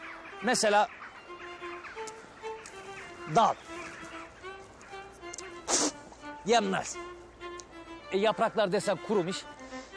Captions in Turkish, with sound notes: Mesela... ...dal... ...yenmez. (Tükürüyor.) Yapraklar desen kurumuş.